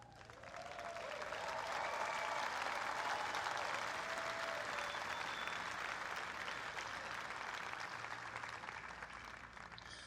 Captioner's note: applause